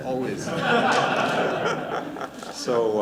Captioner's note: laughter